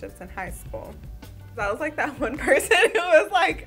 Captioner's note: laughing